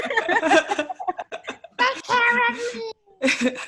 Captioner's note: laughs